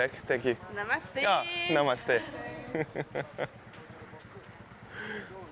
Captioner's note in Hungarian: nevetés